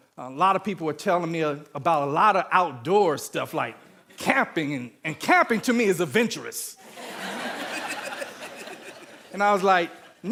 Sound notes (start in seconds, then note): 6.8 audience laughing